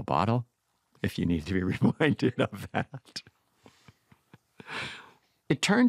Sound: laughs

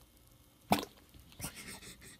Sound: splat

